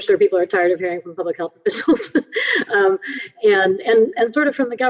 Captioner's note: laughs